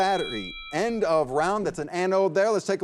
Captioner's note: bell rings